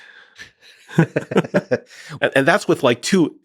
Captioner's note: both laughing